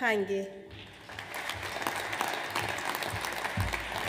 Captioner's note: audience applauds